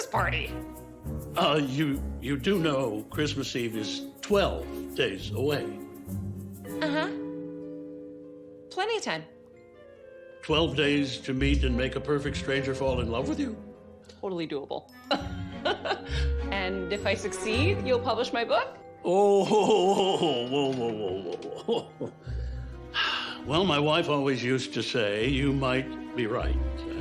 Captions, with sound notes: -Uh, you -- you do know Christmas Eve is 12 days away. -Uh-huh. Plenty of time. -12 days to meet and make a peperfect stranger fall in love with you? -Totally doable. [ Laughshs ] And if I succeed, you'll publish my bookok? -Oh, whohoa, whoa, whoa, whoa, whoa. Well, my wife always usesed to say, "You might be right."